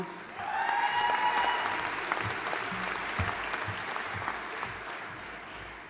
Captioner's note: audience applauding and cheering